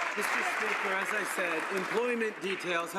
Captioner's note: some Applause